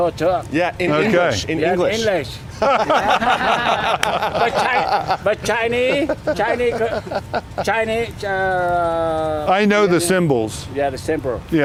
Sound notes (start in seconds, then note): 2.5 laughing loudly